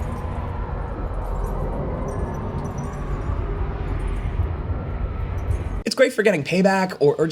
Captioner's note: slow-motion car revving muffling